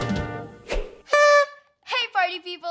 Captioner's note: party horn blown